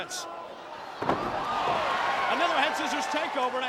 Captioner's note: body thudding